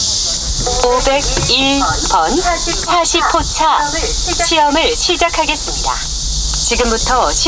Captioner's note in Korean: 기계음